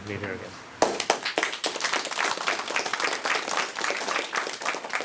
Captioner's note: applause